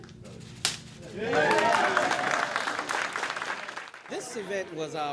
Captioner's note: applauding